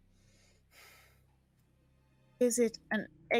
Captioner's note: deep exhaling